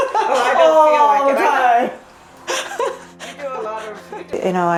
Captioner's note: laughter